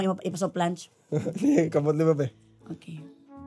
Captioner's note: chuckles